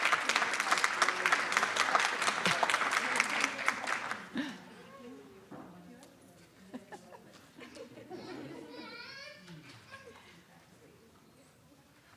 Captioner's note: applause